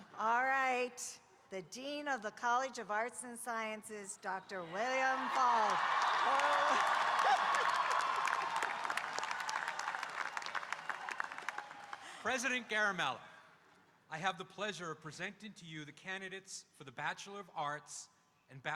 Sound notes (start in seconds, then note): 4.8 audience cheering and applauding